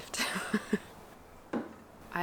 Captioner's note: laughter